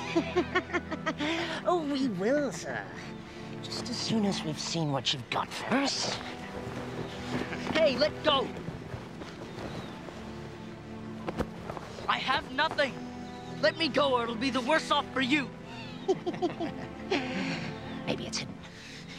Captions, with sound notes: (ruffian snickers) - Oh, we will, sir, just as soon as we've seen what you've got first. - Hey, let go! I have nothing. Let me go, or it'll be the worst off for you. (both laugh) - Maybe it's hidden.